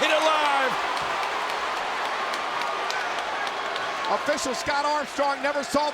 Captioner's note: applause